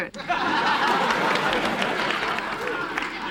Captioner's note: laughter